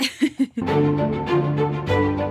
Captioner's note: laughing; upbeat music